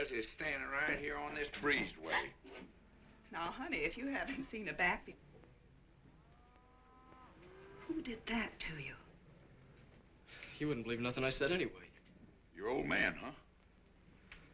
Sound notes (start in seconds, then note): 6.0 cows mooing